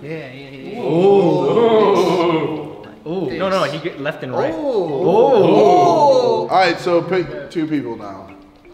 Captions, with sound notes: - Yeah. (crowd oohing) - No, no, he gets left and right. - All right, so pick two people now.